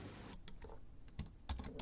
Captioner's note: mouse click; keyboard typing